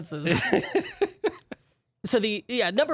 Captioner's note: laughing